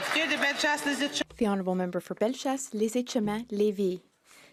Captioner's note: some Applause